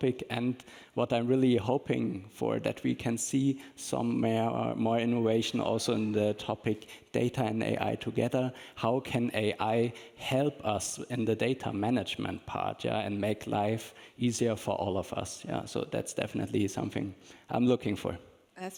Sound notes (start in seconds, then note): none